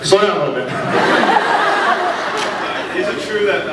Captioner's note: laughs